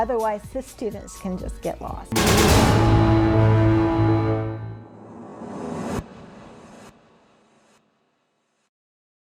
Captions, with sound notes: Otherwise the students can just get lost. (clashing) (sparkle instrumental)